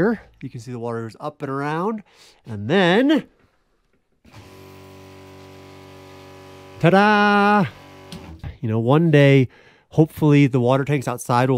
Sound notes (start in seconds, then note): 4.3 pump rumbling; 7.2 switch clicking